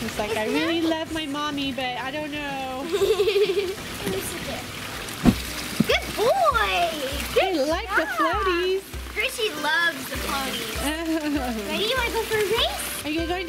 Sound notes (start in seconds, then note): 2.8 laughs